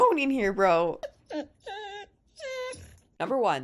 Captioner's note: dog whining